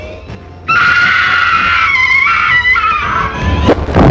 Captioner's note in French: hurlement de femme